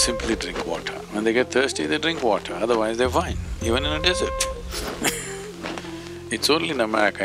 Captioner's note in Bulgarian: смее се